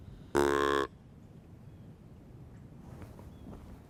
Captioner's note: deer call honking